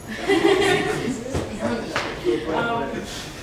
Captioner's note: laughter